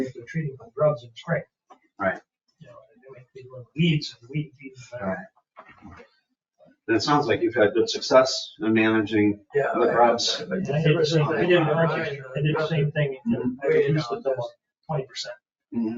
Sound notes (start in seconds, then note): 4.4 speaks distantly; 10.7 people chatter